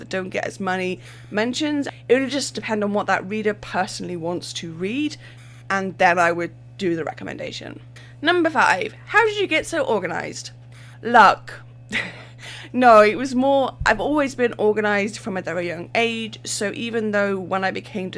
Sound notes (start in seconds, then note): 11.9 laughs